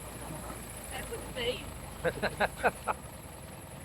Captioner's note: laughing